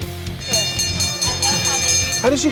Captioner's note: ringing bell